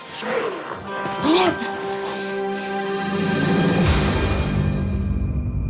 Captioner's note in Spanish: Grito ahogado